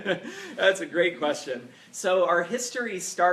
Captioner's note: laughing